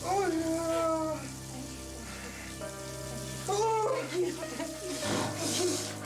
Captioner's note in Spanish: quejidos de salvador